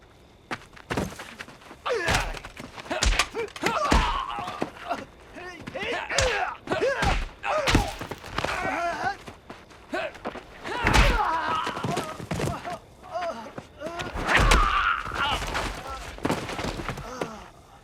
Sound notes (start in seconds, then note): 2.8 both Grunting; 10.6 groans